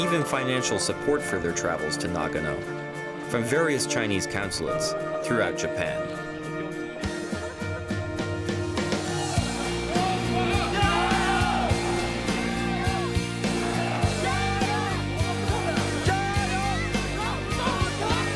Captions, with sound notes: and even financial support for their travels to Nagano from various Chinese consulates throughout Japan. (rock music) (cheering and chanting)